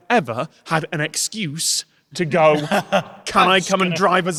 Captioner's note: chuckles